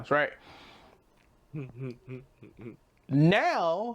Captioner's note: humming